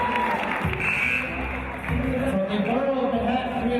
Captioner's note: cheers and applause from audience and team; buzzer